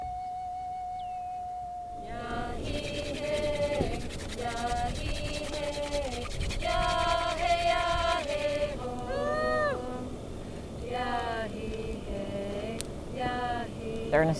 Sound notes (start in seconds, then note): 2.0 stick rasping; 2.5 group chanting; 9.0 woman whooping; 12.5 fire crackling